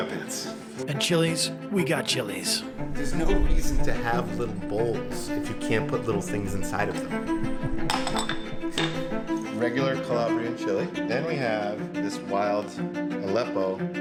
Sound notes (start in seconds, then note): 7.9 bowls thudding